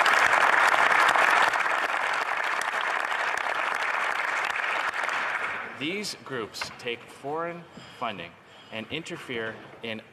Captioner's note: some Applause